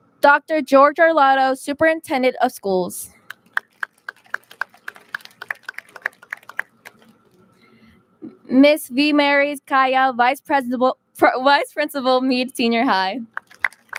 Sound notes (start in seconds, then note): 3.2 audience claps